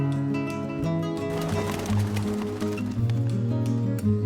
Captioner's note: bird wings flapping